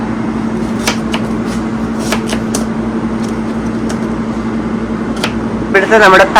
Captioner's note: chopping sound